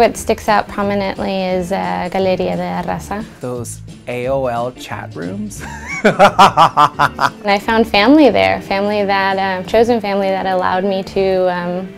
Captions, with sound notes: I think what sticks out prominently is Galeria de la Raza Those AOL chat rooms. (laughs) And I found family there, chosen family that allowed me to be.